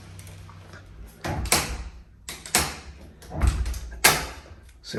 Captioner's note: door clicking